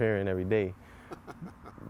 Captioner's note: laughter